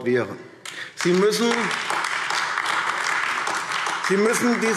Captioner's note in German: Beifall AfD